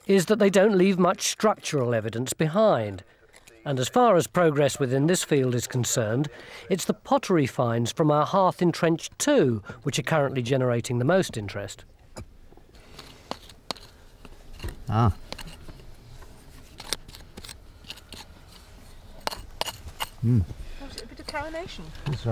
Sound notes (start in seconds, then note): 12.6 pick clacks; 16.8 pick scrapes